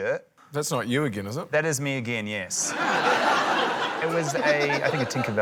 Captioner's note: laughter